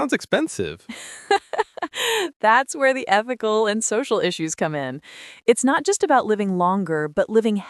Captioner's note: laughs